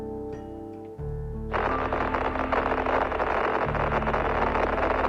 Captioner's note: radio static crackling